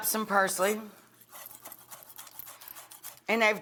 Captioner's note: knife chopping